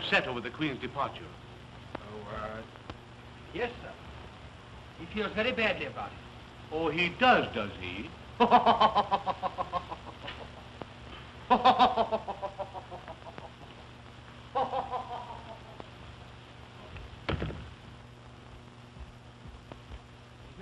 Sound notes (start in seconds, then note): 7.1 chuckling